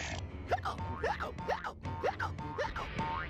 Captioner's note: hiccupping